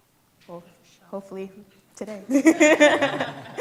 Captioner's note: laughing